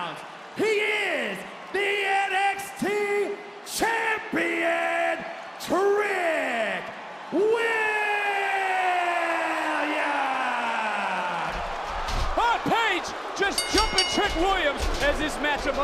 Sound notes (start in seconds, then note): 10.9 crowd cheers